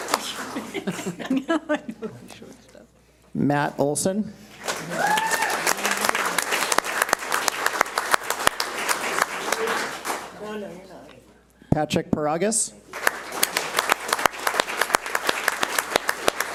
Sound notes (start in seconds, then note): 0.2 women laugh; 4.6 audience cheers and applauds; 12.9 audience applauds